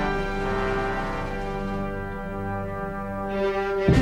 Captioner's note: Aplausos